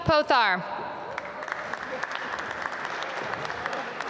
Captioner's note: applause